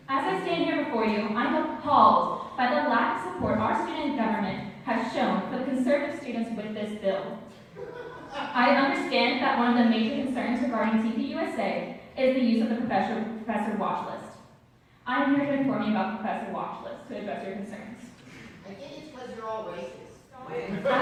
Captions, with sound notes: As I stand here before you, I'm appalled by the lack of support our student government has shown for the conservative students with this bill. [crowd laughing] I understand that one of the major concerns regarding TPUSA is the use of the professor watch list. I'm here to inform you about the professor watch list to address your concerns. -I think it's because you're all racist.- [crowd laughing]